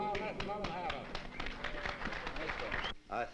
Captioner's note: applause